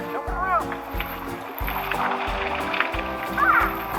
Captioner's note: waterfall breaking on pool; assistant shouts